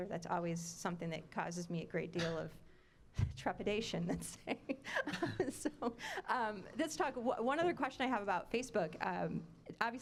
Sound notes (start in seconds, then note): 4.6 laughing